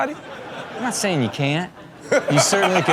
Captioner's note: laughing